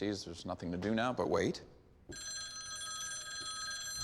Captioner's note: phone rings